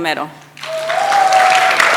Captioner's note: audience applauds and cheers; sound of applause dissipates; audience member whoots